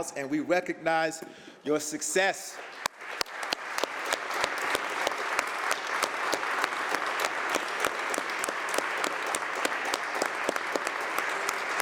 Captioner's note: applause